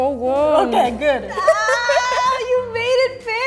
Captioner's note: laughs